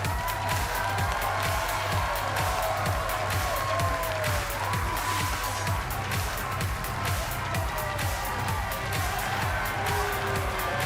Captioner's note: cheers and applause